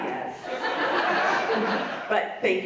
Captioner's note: audience laughs